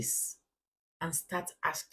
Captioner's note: paause